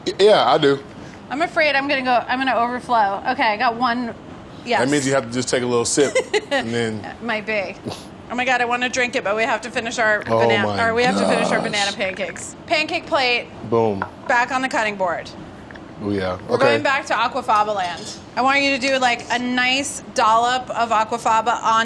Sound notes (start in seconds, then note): 7.1 laughs